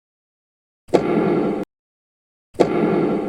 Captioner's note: boom